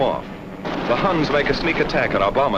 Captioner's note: guns firing